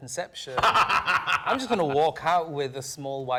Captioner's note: laughing